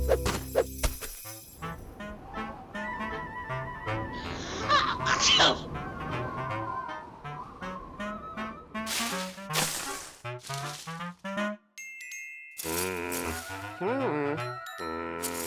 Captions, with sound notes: (wind whistles) AH... AH-CHOO! (leaves crunch) MMM! HI. MMMM!